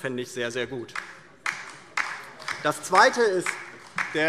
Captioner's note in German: Beifall DIE LINKE